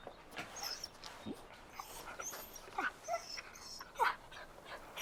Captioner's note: Buck whining